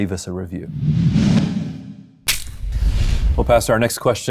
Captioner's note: logo whooshes and clacks